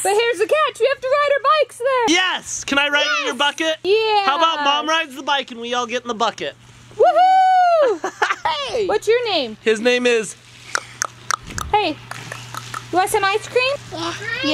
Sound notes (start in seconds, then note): 7.6 laughs; 12.0 clicks tongue